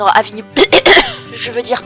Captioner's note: the totally not dubious and badly-played cough